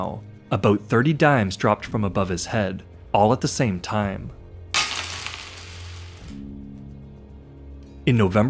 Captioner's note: coins hitting the floor